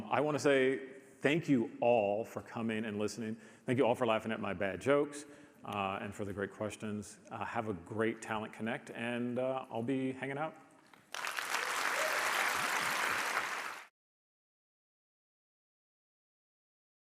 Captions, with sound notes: I wanna say thank you all for coming and listening. Thank you all for laughing at my bad jokes and for the great questions. Have a great Talent Connect and I'll be hanging out. (audience applauds)